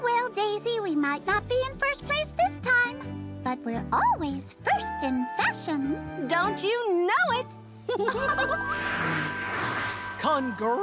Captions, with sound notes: Oh, well, Daisy, we might not be in first place this time, but we're always first in fashion. Don't you know it. ( both giggling )